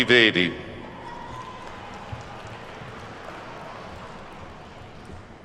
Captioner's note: attendees clapping